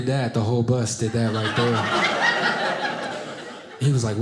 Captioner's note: audience laughing